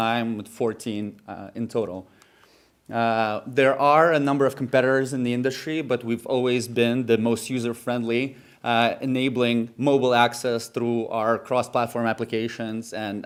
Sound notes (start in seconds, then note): none